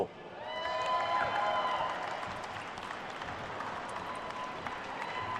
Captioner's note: attendees cheering and applauding